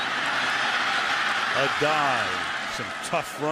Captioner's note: cheering